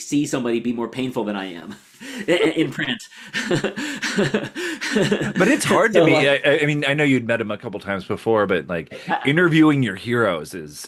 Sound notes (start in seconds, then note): 3.1 laughs